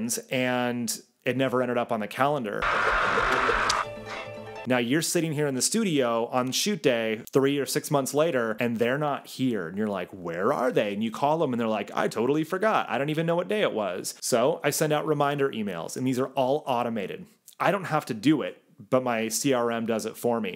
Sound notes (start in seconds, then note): 2.6 spring whirring; 2.7 dramatic music